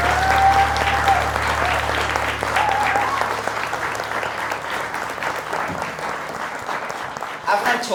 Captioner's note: applause